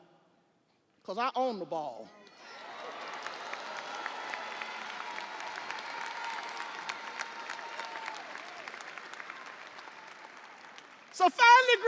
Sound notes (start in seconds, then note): 7.9 audience applauding; 7.9 audience cheering